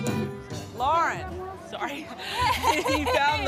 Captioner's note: laughs